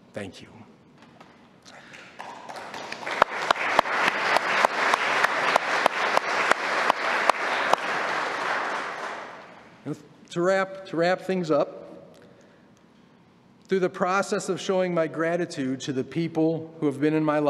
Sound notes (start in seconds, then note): 5.6 applause